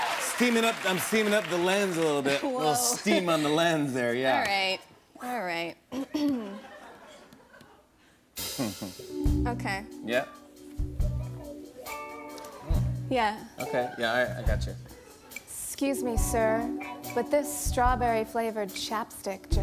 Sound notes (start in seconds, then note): 8.2 sultry music plays; 8.4 clears throat